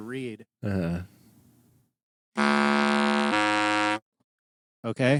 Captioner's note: buzzing